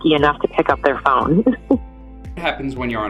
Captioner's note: she chuckles